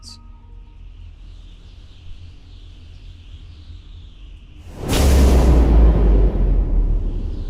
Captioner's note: impact crash; wind rushing